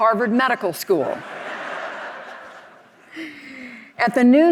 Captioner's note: audience laughing